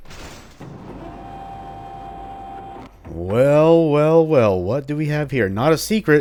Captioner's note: vault door opening